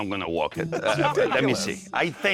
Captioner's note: laughing